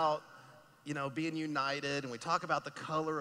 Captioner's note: none